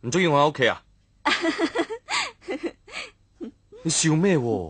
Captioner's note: laughter